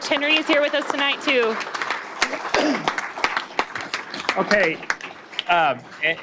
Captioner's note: applause